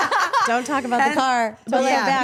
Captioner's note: all laughing